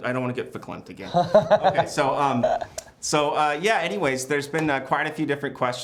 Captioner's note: laughter